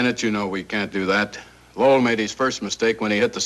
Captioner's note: none